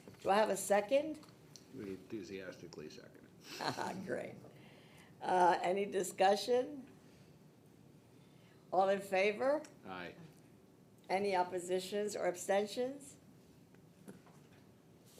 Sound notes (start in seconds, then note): 3.5 laughing